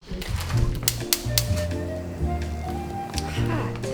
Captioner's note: gas stove igniting